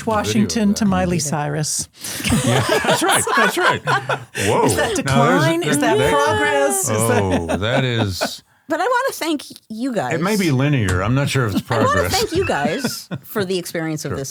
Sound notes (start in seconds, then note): 2.2 everyone laughs